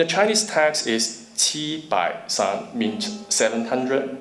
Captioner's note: speaking foreign language